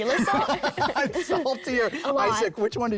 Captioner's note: group laughing